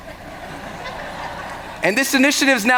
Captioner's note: laughter